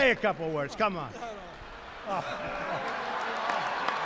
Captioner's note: laughter and applause